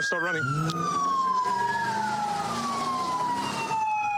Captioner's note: engine revving